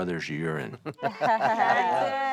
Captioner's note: Willie laughing